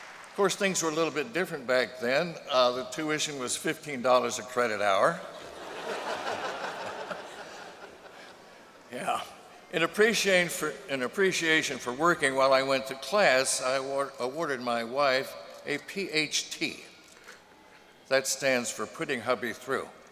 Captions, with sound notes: Of course things were a little bit different back then. The tuition was $15 a credit hour. [laughter]. Yeah. In appreciation for working while I went to class, I awarded my wife a PhT -- that stands for putting hubby through.